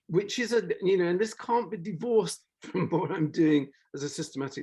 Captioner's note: laughs